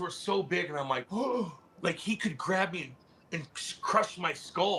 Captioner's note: gasps